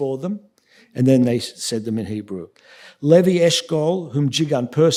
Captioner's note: speaking yiddish